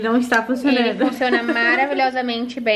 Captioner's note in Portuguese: Risos